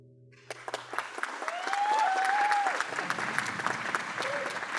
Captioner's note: applause